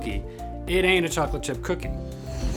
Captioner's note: whooshing sound